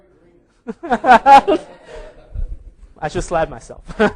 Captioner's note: laughing